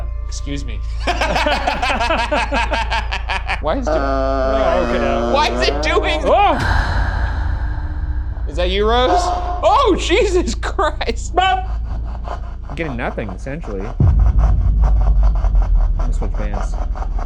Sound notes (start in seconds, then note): 0.7 laughing; 6.4 shouting